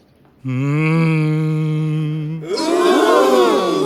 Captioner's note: humming